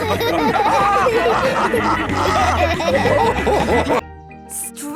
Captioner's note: all laughing